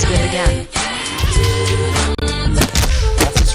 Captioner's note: exclaims